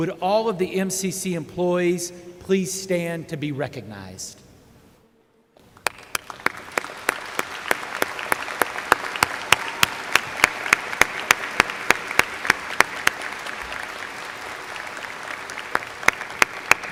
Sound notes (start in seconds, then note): 5.6 applause